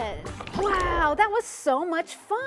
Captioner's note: water burbling; transition whooshes